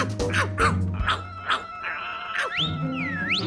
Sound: barking; whistles

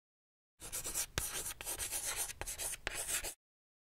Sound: chalk scratching

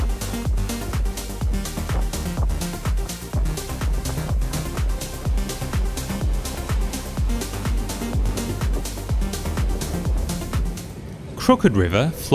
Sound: wind blowing; wind

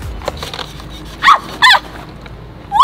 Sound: panicking

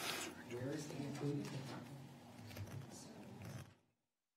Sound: man speaks off mic

